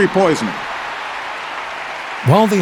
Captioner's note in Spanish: Aplausos